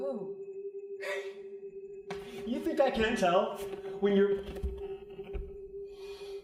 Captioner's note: scoffs